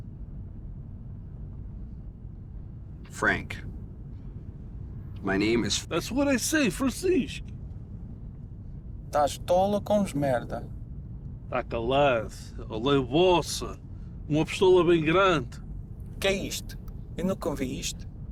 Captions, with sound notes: - Frank, my name is- - That's what I say, Francis. (group speaking in foreign language)